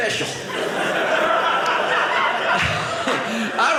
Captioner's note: audience laughing